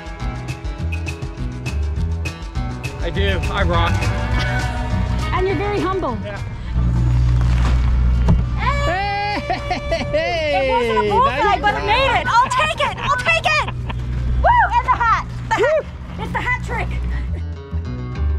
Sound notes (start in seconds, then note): 9.0 laughing; 10.2 everyone cheering; 13.3 laughing